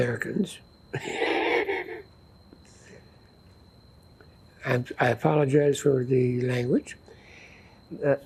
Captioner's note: laughing